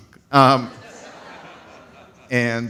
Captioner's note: audience laughs